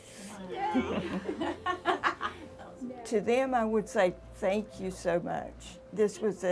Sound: laugh

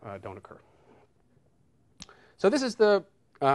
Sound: none

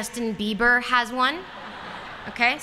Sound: laughter

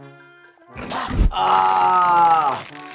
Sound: chomps; laughing

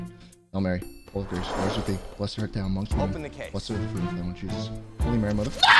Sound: Schlatt praying

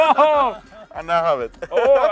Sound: laughing

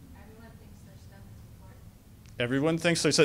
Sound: voiceover

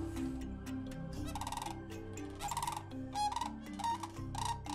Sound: birds calling

